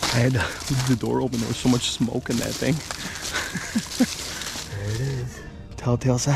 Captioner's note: laughs